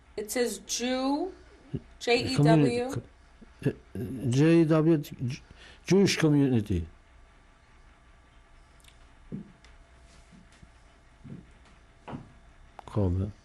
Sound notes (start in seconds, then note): 7.0 pauses for 6 seconds